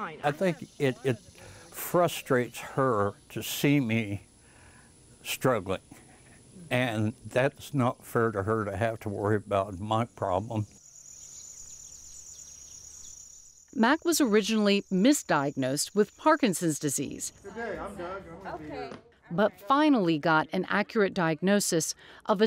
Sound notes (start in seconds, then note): 11.1 birds chirping